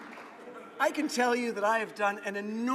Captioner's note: laughing